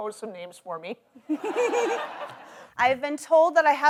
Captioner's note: audience laughs